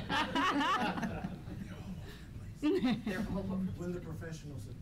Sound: laughter; laughter

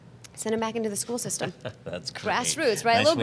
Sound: laughs

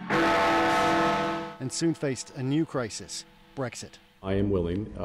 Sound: bell tolls

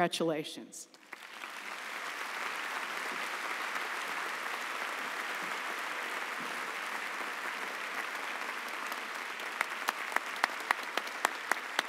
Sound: applause

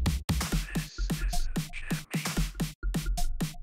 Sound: slow Whisper

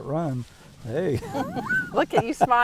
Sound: laughing

